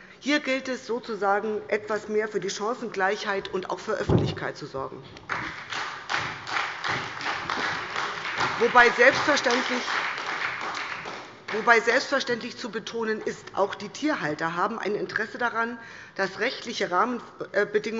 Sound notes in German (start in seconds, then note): 5.2 Beifall bei der SPD